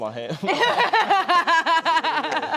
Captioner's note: laughter